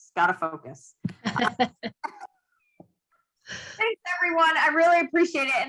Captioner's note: laughs